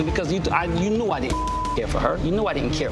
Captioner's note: beep